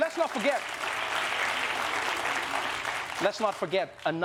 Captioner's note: applause